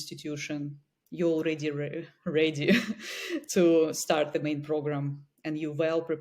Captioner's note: chuckles